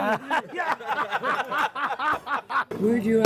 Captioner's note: laughing